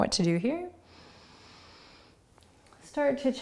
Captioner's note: inhaling